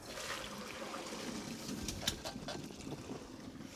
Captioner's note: water splashing